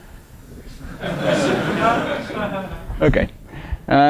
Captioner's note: laughter